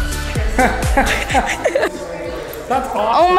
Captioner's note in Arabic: موسيقى مبهجة; الناس يضحكون